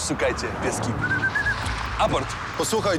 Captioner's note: whistle